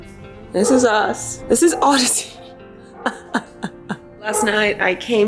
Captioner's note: laughs